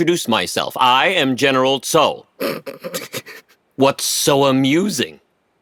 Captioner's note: snickers